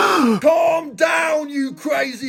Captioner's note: gasping